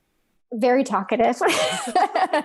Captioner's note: laughs